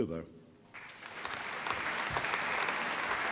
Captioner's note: applause